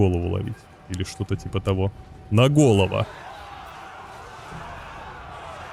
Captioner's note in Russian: ликование